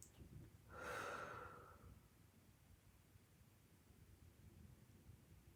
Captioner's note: exhales deeply